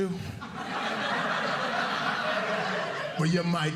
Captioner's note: audience laughing